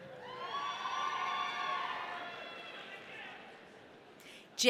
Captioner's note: audience cheering